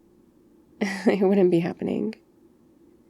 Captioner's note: laughs